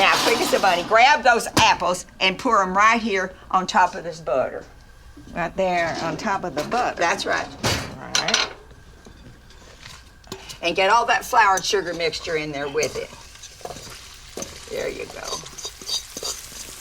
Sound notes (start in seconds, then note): 13.7 apples sizzling